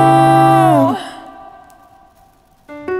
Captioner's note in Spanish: crujido de papel quemandose